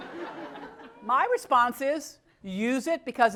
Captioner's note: laugh